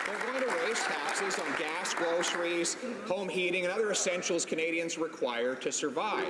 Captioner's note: some Applause